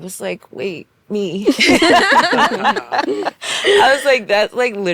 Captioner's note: laughing